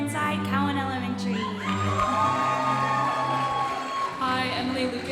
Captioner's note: audience applauding